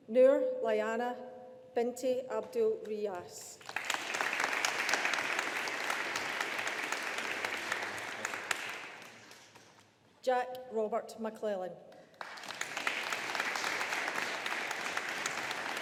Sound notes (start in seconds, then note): 3.6 audience applauding; 12.1 audience applauding